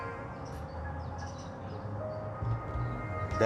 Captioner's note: birds chirping